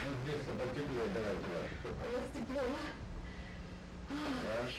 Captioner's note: couple speaking in Russian